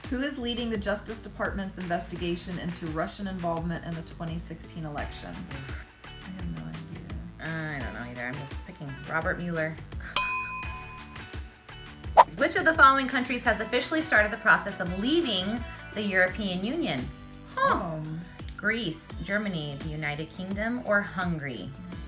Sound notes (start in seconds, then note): 10.2 dinging